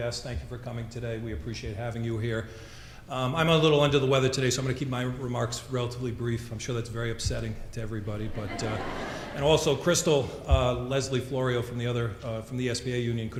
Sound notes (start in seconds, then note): 8.2 audience laughing